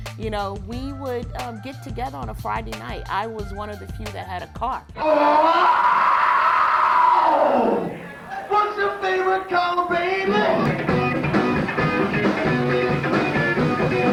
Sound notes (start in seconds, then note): 5.0 man shouting; 9.7 fast-paced rock music